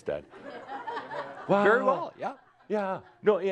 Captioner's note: some laughter